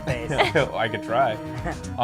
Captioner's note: laughs